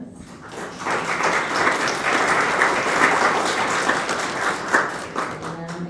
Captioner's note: applause